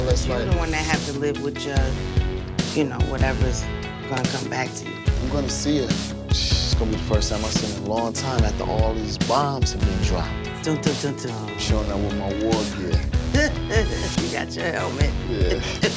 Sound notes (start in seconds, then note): 12.4 laughing